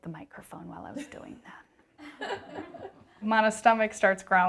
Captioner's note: laughter in the background